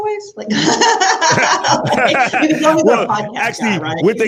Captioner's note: panelists laughing